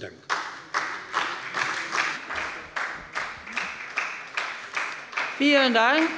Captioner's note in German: Beifall bei der SPD